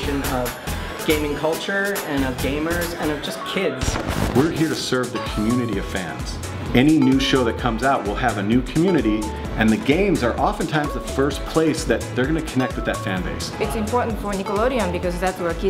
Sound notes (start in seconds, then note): 3.8 static; 3.9 EDM music continues